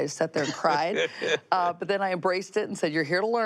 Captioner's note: laughs